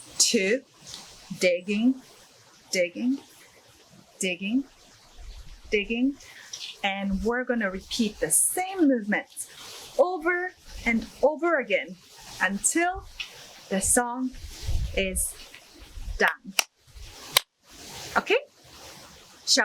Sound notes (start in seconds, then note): 16.4 hands clapping